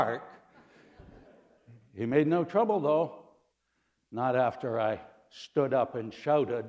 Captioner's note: laughter